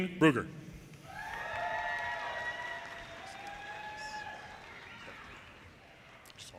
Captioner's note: audience cheers and applause